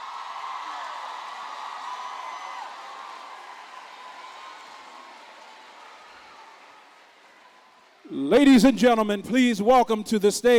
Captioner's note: applause